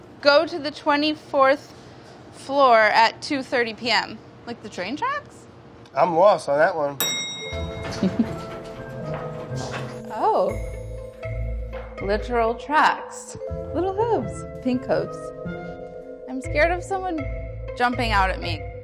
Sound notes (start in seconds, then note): 6.9 slow upbeat music; 7.0 elevator pings; 7.9 laughs